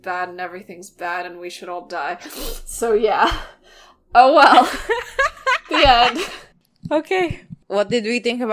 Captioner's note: laughing